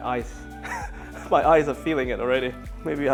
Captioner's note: chuckles